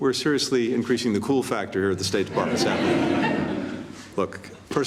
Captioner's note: laughter